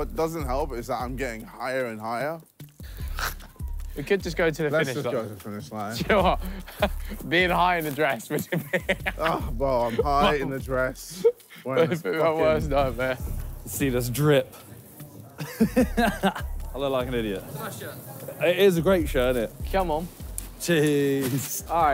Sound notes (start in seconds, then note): 8.0 laughing; 15.4 laughing